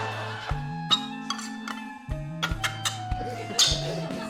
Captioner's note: tin grinds